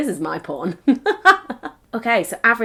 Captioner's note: laughs